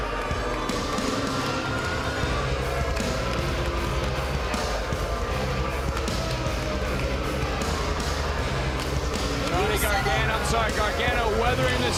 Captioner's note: crowd cheering